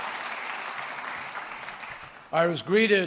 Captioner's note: applause